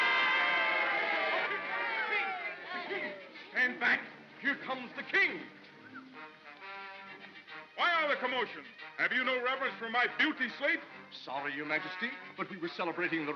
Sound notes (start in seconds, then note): 0.0 mob cheering; 0.0 trumpets sounding; 0.0 mob clamors